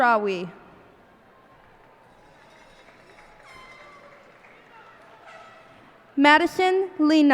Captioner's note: cheers and applause